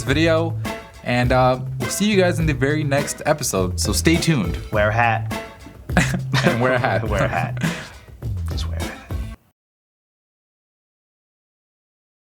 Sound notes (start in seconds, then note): 5.6 laughs